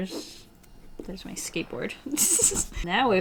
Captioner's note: giggles